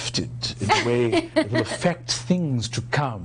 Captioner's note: laughing